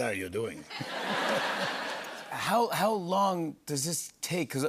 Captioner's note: laughter